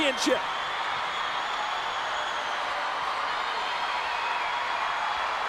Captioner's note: crowd cheers and whistles